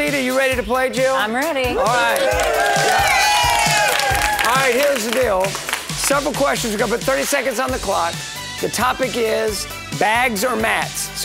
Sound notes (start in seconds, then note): 1.7 group cheering; 1.8 group clapping